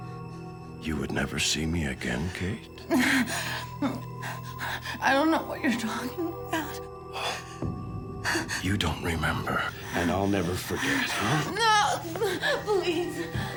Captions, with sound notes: you would never see me again, Kate? (Emily whimpering) - I don't know what you're talking about. - Oh, you don't remember, and I'll never forget. - No. Please.